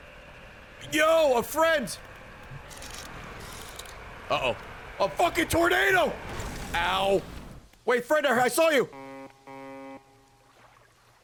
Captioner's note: distant honks; honks